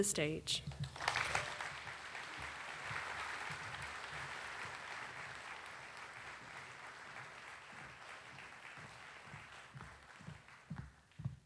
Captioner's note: applause